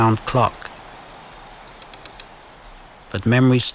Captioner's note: clock being wound